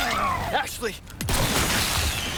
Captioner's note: boom